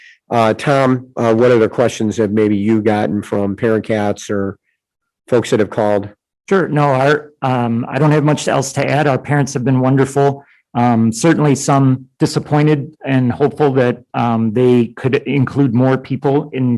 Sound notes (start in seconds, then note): none